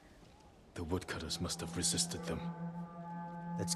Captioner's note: alarm